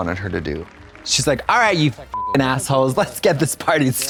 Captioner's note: beep